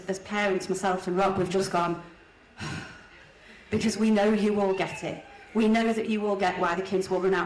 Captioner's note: exhale